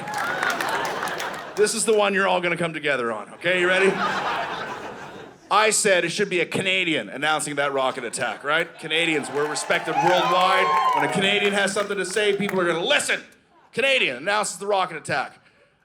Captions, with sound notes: This is the one you're all going to come together on, okay. You ready? (Audience laughing) I said, “It should be a Canadian announcing that rocket attack.” Canadians, we’re respected worldwide. (Audience cheering) When a Canadian has something to say, people are going to listen. Canadian announces the rocket attack.